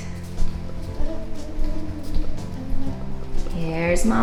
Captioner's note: humming quietly